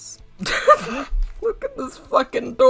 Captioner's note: gross laugh